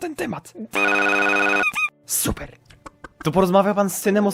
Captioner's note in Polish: glitch